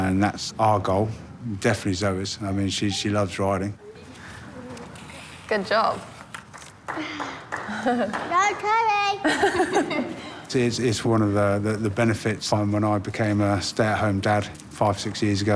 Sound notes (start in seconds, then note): 6.3 clapping; 9.2 trainers laugh